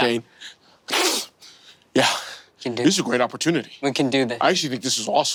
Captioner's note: snorts